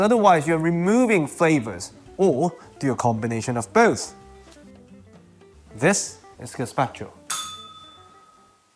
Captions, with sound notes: because otherwise you're removing flavours. Or do a combination of both. This is gazpacho. [bell rings]